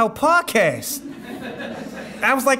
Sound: audience laughing

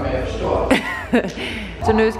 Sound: laughter

